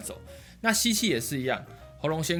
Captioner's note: inhaling